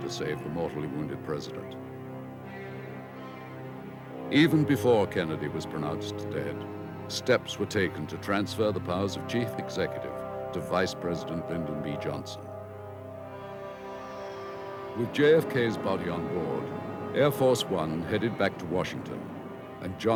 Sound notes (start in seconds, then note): 2.8 gentle music; 13.8 airplane engine roaring